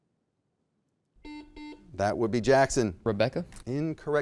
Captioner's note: buzzer beeping